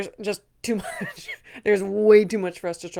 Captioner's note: laughs